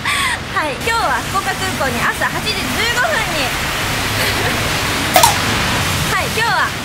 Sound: A large bus drove

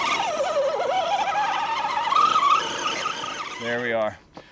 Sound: engine whining

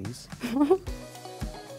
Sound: laughing

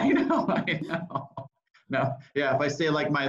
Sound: laughs

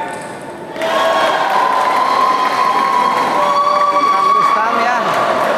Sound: applause

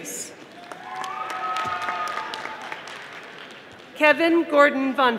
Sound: audience applauding

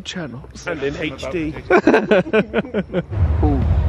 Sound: laughs

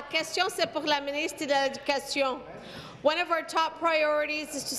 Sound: speaking in French

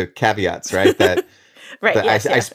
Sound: laughs

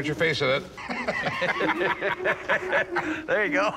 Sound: laughter

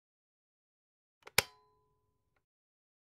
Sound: sound of electric switch

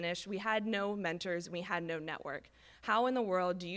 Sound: none

